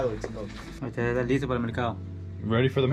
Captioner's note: speaking spanish